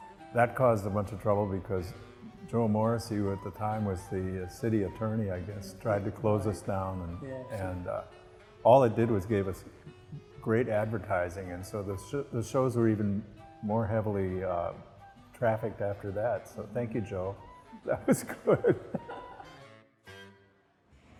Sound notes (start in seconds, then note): 17.8 laughing